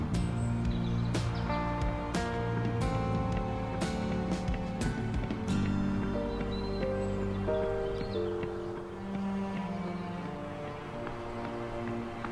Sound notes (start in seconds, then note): 0.0 birds chirping; 0.2 gentle upbeat music; 3.3 birds chirping; 6.5 gentle upbeat music; 9.3 birds chirping